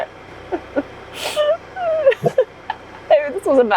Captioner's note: crying